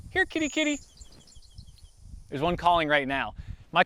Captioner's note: bird chirps